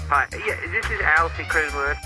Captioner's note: over comms